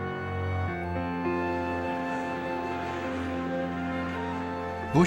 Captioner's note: people talking in background